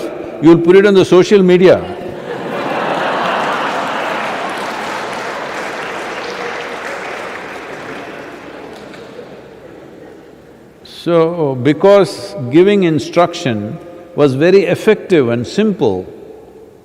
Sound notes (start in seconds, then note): 2.1 laughter/Applause